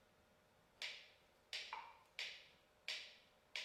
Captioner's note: metronome ticks